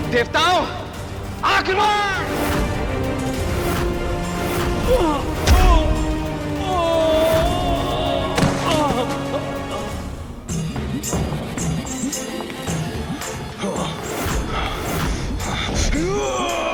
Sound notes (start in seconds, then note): 6.6 screams; 8.2 falls